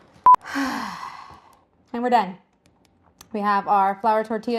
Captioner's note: beeps; sighs